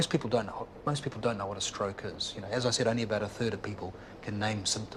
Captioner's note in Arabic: none